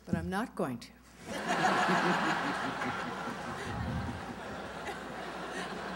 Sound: laughter

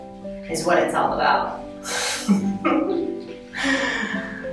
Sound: laughs

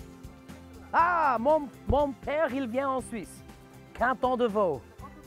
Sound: speaking in French

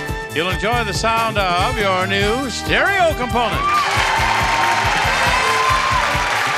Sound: audience cheering

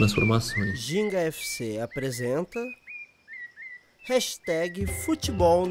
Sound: birds singing; regional music

